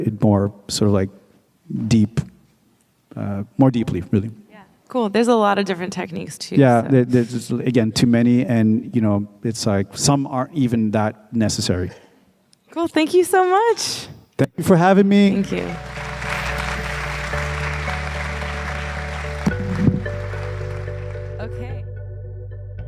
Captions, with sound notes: more sort of like deep, more deeply, really. - Cool, There's a lot of different techniques tools so-- - Yeah, again, too many, and you know, it's like some aren't even that necessary. - Cool, thank you so much. - Thank you for having me. - Thank you. (crowd applauding) (soft upbeat music)